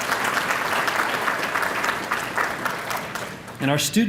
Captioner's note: applause